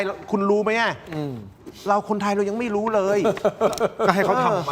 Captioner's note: laughs